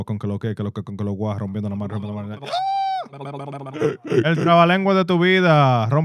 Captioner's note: non-english Speech